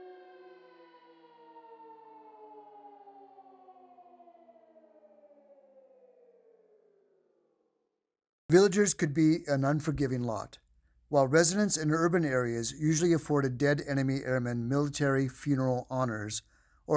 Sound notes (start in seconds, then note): 2.8 siren fades